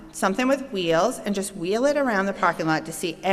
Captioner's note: none